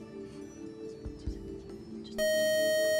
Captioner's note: buzzer